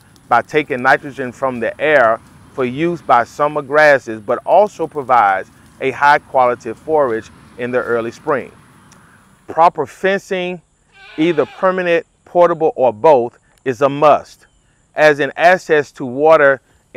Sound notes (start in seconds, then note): 10.9 goat bleating